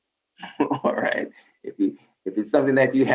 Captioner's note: laughs